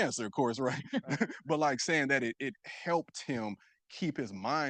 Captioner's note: chuckles